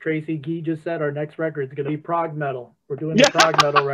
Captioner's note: laughter